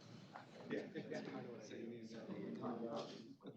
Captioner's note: collective chatter